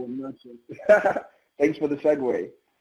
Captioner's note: laughs